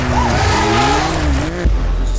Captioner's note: engine humming